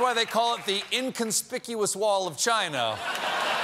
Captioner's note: laughter